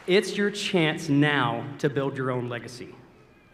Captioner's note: applause